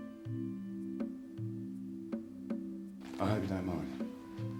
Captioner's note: none